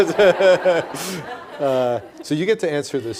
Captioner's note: all laughing